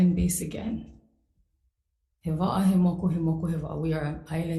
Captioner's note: speaks foreign language